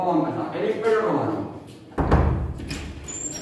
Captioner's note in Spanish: llaman a la puerta